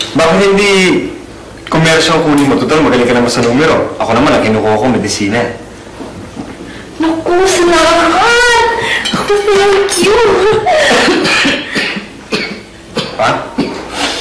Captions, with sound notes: Why don't you take commerce since you're good with numbers. And I'm taking up medicine. Oh, thank you, thank you. [giggles] [coughing] Dad?